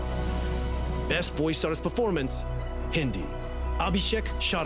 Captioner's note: Hindi